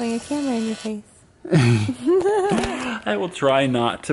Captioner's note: more giggles